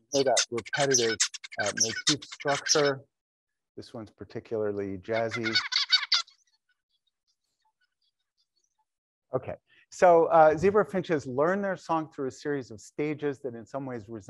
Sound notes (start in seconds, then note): 0.0 bird singing; 5.1 bird singing